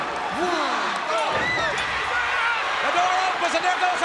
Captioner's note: fan screams